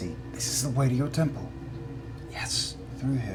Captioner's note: whispers